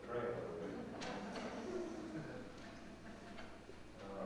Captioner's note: laughter